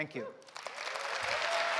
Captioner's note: applause